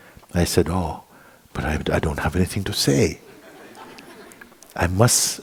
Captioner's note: laughter